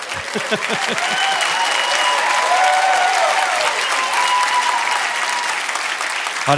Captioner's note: audience laughing and applauding; laughing; audience cheering